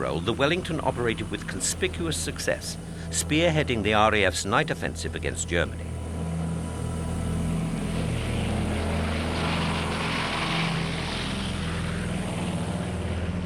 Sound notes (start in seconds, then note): 7.0 plane roaring